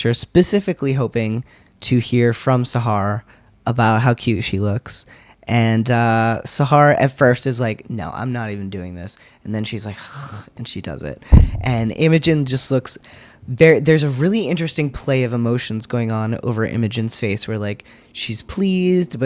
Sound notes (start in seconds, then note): 10.2 grudging sigh